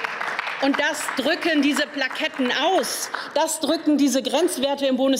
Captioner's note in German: Beifall